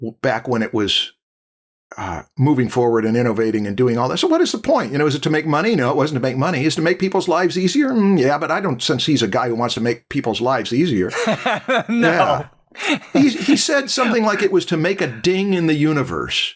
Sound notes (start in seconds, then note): 11.1 laughs